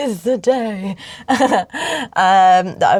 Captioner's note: laughs